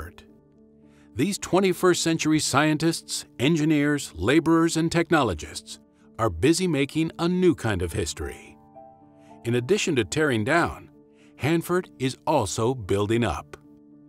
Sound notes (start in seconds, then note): none